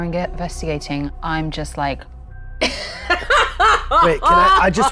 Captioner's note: laughing